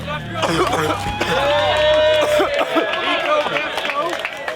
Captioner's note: cadets cough; crowd cheers